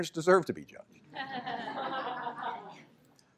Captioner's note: laughter